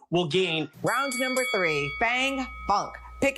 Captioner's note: bell dings